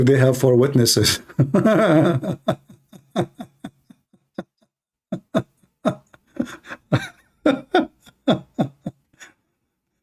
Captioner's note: Ketawa